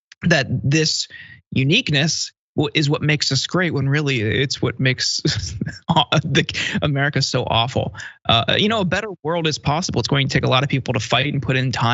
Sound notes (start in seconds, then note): 5.2 laugh